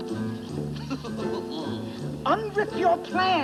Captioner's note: chuckling